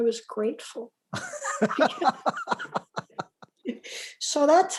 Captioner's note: laughs